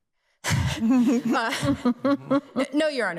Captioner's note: people laughing